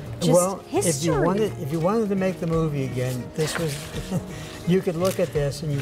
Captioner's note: laughing